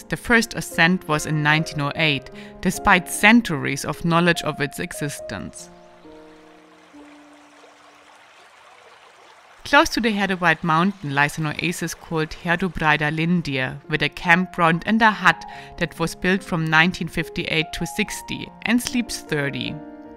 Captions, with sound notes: the first ascent was in 1908 despite centuries of knowledge of its existence. (brook babbling) Close to the Herdubreid mountain lies an oasis called Herdubreidarlindir with a campground and a hut that was built from 1958 to '60 and sleeps 30.